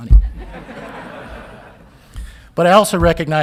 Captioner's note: audience laughing